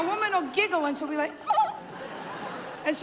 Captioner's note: high-pitched giggle